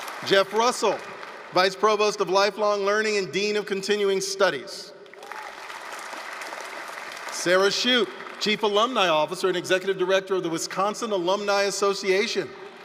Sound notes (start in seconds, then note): 5.0 applause, cheering